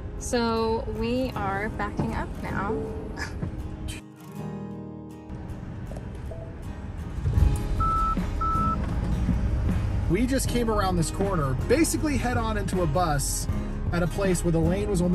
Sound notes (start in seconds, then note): 4.5 acoustic guitar music; 7.7 car beeping